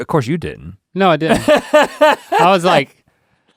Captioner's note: Rhett laughs